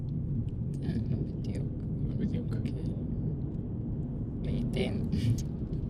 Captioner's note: speaking foreign language